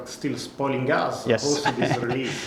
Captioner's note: chuckles